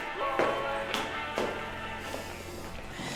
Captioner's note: footsteps